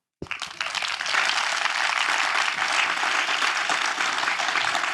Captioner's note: audience clapping